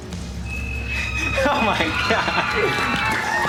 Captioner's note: crowd cheers